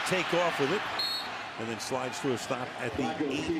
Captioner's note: whistle